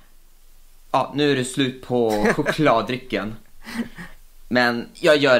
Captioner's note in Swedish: Skrattar